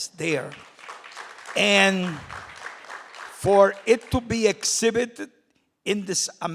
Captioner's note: applause